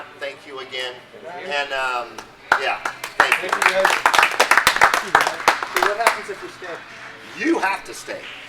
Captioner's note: clapping